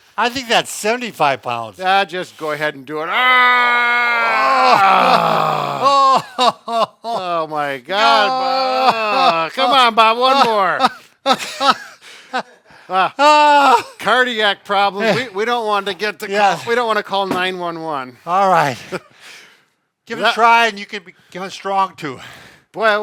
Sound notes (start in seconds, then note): 3.0 wailing; 7.8 wailing continues